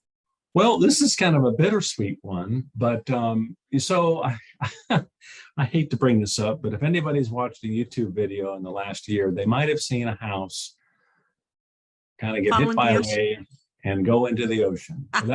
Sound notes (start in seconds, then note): 3.8 chuckles; 14.0 chuckles